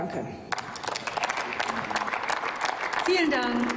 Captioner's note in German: Applaus